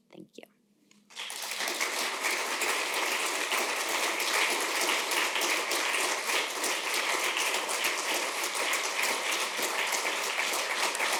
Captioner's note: applause